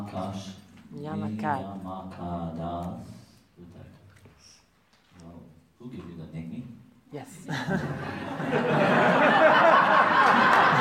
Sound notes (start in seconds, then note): 7.4 laughters; 7.5 laughs